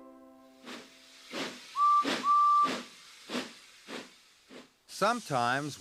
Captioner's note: train engine chugging